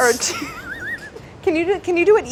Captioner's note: laughing